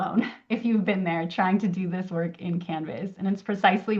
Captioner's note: laughs